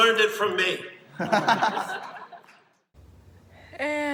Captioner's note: crowd laughs